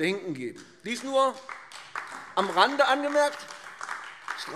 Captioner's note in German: Beifall AfD